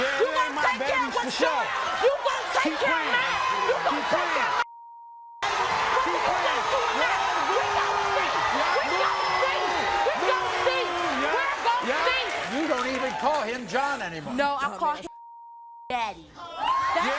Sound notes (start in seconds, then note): 5.8 yelling; 15.1 beep